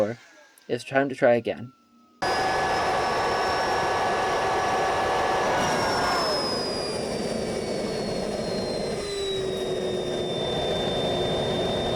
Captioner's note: turbine noises